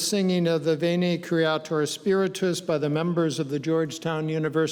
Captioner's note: speaking in foreign language